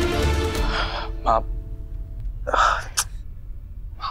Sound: sighs

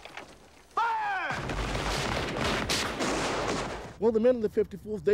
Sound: gunfire

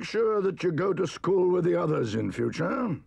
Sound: none

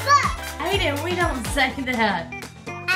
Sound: voiceover

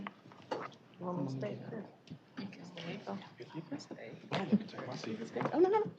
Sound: indistinct chatter

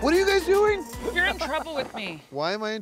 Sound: laugh

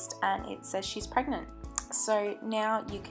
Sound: lip SMACK

